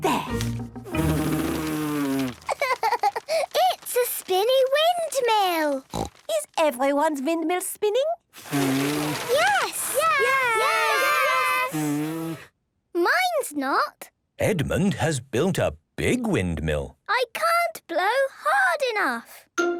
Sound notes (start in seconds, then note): 0.1 blows; 8.3 blowing, fluttering; 12.2 blows